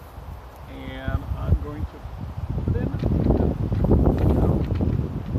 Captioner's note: wind interference